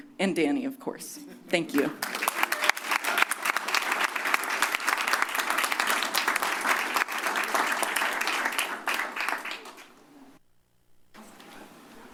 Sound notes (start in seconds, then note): 1.7 applause